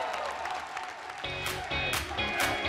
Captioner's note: cheers and applause